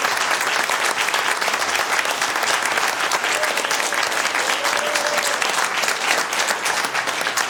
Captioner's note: applause; applause